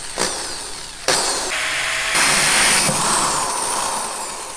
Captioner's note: drilling